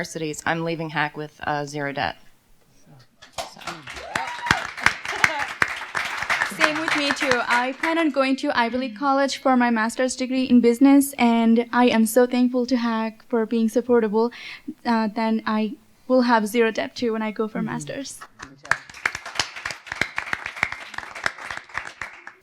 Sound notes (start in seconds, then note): 3.3 applause; 3.6 cheers; 18.4 applause